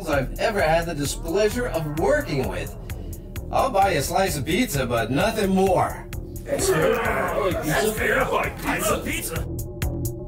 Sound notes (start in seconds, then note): 6.6 all chattering